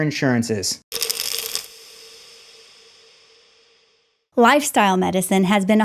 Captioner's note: pills rattling